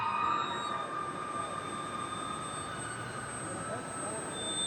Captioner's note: loud squeaking doors